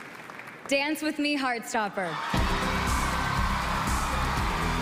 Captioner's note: cheering and music